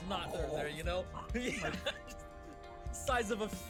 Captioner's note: laughs